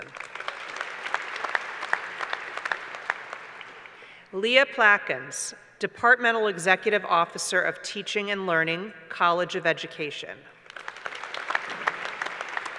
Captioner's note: applause; applause